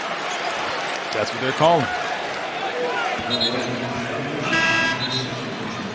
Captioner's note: buzzer